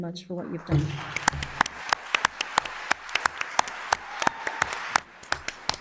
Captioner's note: audience applauds